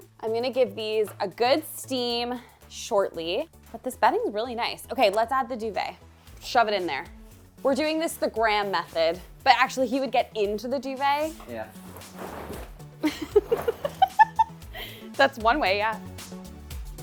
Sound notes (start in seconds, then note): 11.1 sheet rustles; 13.0 laughs; 16.8 lighthearted music